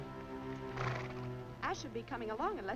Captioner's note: horse whinnying